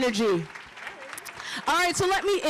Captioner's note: applause